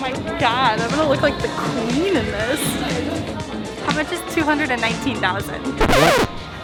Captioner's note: record screeches